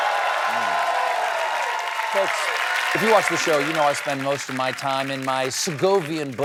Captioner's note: cheering